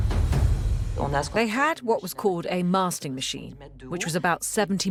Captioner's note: voiceover